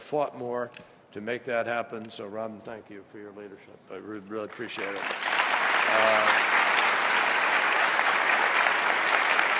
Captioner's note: applause